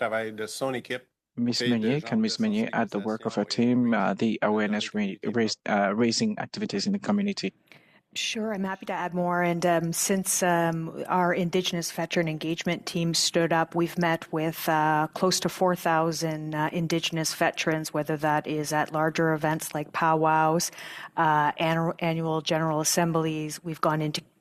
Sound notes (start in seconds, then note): 4.9 speaking French